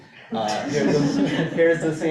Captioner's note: laughing